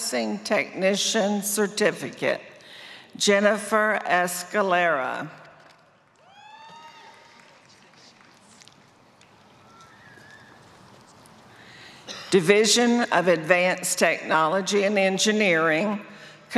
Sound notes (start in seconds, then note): 9.0 applause